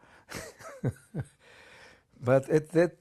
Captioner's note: laughs